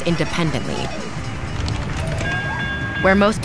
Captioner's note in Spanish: silbido de tren